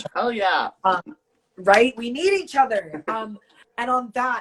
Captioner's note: laughs